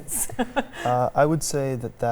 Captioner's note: all laugh